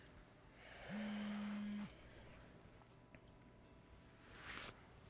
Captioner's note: cellphone buzzing